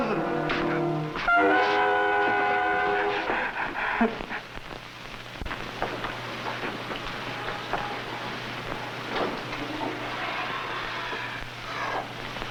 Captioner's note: sobbing